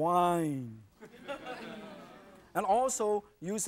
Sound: audience laughing

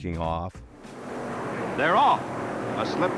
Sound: car engines roaring

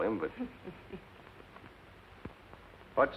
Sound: chuckles

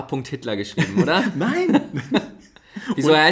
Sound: laughs

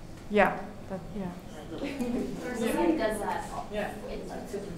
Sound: audience murmuring

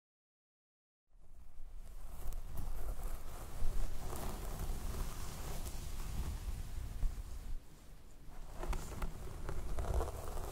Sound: sound of stroking hair

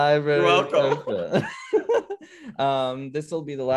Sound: laughter

